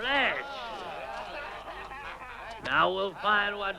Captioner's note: men jeering